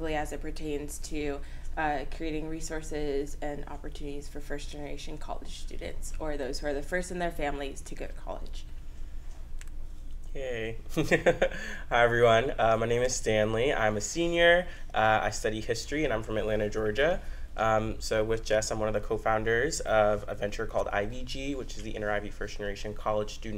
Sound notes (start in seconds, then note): 11.0 laughs